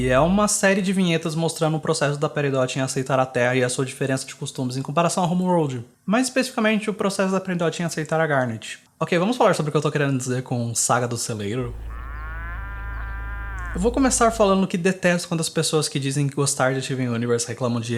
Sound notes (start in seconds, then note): 11.6 muuu